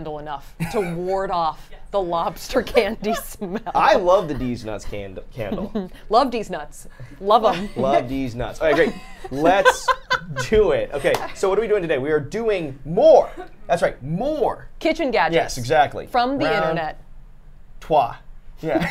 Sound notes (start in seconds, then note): 8.7 laughing